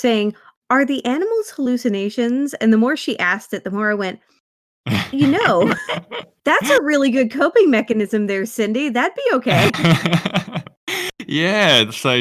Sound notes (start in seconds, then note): 4.2 laughs